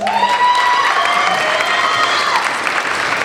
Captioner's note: applauding